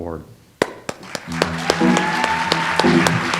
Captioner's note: audience applauds; light jazz music